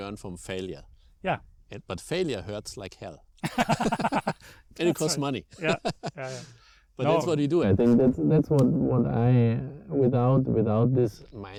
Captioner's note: laugh